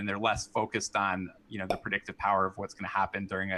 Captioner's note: popup pops